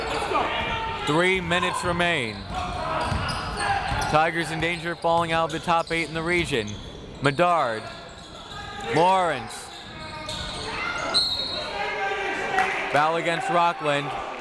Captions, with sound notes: Three minutes remain. Tigers in danger of falling out of the top eight in the region. Medard Lawrence (whistle) Foul against Rockland.